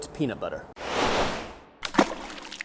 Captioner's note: sauce whooshes; sauce sloshes